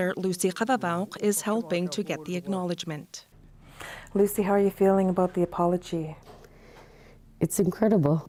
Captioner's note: speaking indigenous language